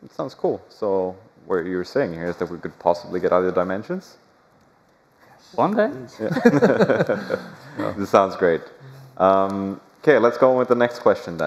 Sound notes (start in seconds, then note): 6.2 laughter